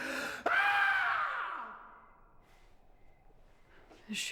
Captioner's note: screaming